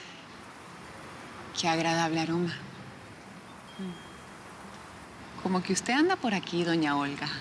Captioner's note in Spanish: Suspiros